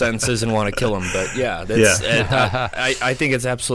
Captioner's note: laughing